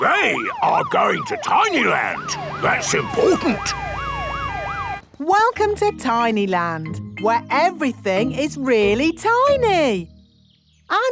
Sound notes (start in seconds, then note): 4.0 sirens wailing